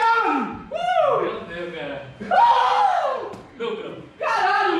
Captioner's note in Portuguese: gritos de comemoração